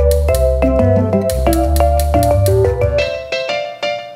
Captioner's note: stove igniting; quirky tropical music